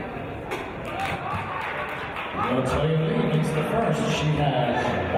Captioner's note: applause